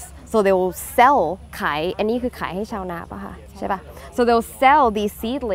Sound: speaks in foreign language

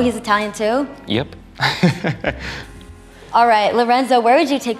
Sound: laughing

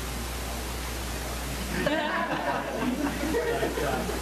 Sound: laughter

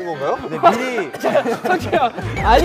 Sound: coughing; coughing at the shocking news

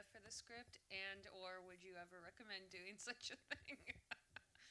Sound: laughs

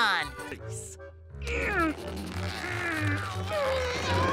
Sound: grunting

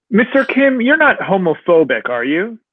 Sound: none

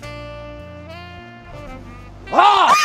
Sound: screams; yells

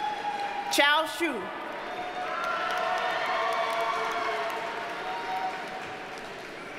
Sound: audience cheers and applauds

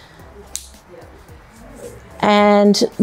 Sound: pole clicking

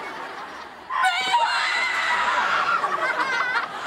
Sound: screaming

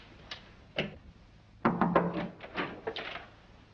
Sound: knocking at the door

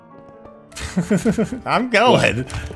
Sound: chuckling

